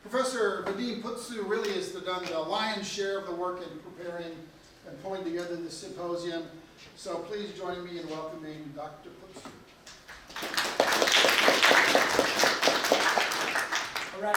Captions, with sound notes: Professor Vadim Putzu really has done the lion's share of the work in preparing and pulling together the symposium. So please join me in welcoming Dr. Putzu. (applause)